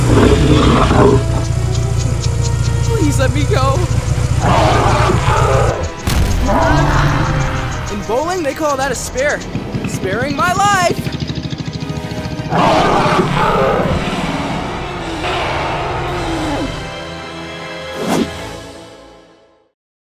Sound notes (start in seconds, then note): 0.0 engine revving; 0.0 growling; 4.2 roaring; 5.6 bonk; 12.4 roaring